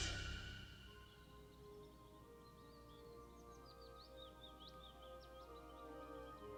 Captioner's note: birds chirping; somber music